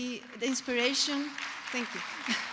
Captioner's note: applause